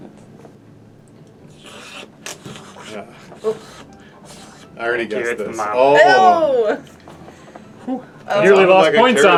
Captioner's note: slurping noises